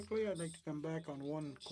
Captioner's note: speaking French